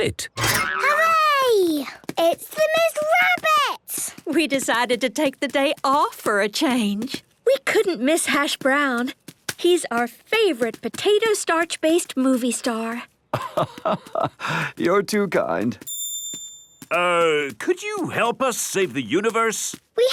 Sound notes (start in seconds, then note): 13.3 laugh